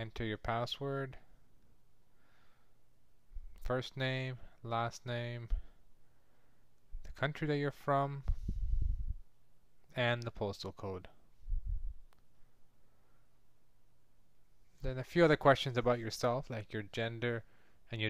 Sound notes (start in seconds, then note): 10.1 silence